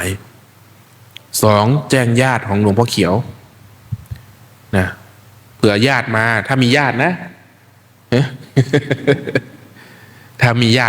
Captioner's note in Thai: เสียงหัวเราะ